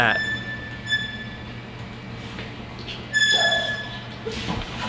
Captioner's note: alarm squeaking